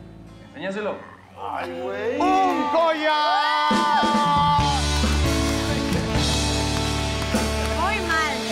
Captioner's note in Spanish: Gritos